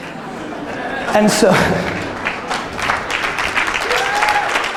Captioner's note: audience laughter and applause